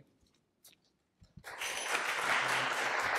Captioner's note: applause